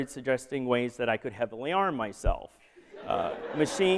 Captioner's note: laughter